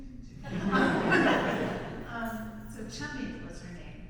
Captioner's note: audience laughs